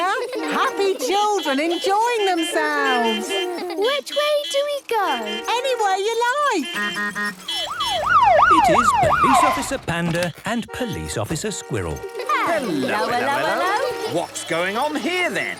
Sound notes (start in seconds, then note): 2.8 laughter; 6.3 honking, siren wailing